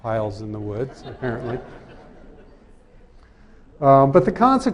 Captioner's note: laughter